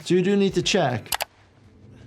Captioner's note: graphics clicking; soft suspenseful music